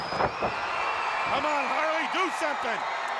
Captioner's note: crowd cheers